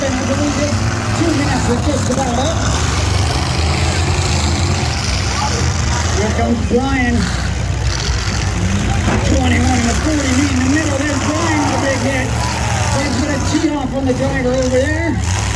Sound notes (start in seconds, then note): 3.5 engine noise, crowd noise; 10.7 cars hit; 12.3 crowd wow